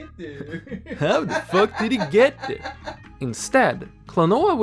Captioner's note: laughing